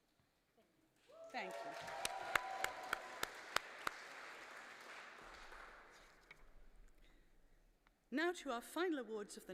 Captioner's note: applause